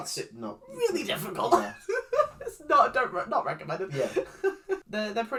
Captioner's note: laughs